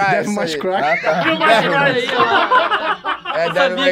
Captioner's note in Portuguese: risadas